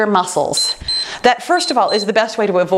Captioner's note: timer beeps